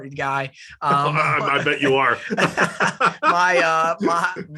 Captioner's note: laugh